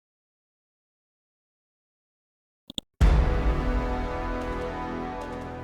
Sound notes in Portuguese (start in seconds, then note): 2.7 cliques do mouse; 3.1 acorde dramático